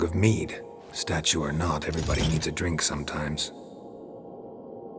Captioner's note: faint click